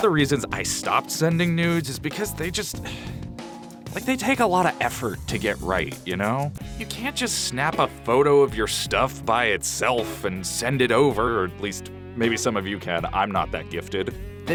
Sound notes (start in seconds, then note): 2.8 sigh